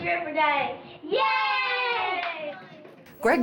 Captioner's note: multiple children yelling